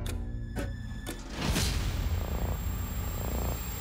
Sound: high-pitched ringing

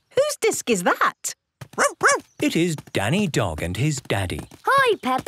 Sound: barking

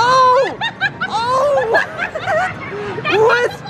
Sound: laughs

